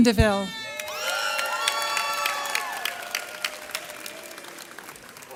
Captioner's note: audience cheers